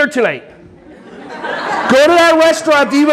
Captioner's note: audience laughing